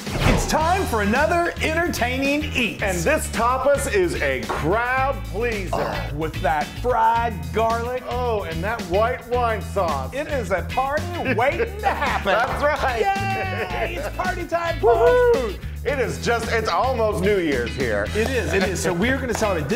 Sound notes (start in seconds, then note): 5.7 moans; 11.0 laughs; 15.0 cheers; 18.0 claps